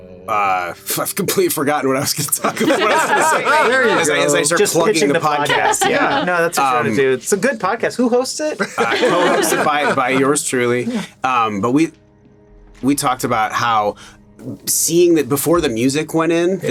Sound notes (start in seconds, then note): 8.6 laughing